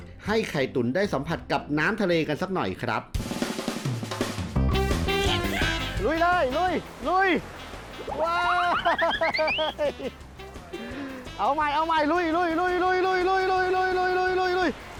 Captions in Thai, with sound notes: ให้ไข่ตุ๋นได้สัมผัสกับน้ำทะเลกันสักหน่อยครับ ลุยเลย ลุย ๆ [เสียงหัวเราะ] เอาใหม่ ๆ ลุย ๆ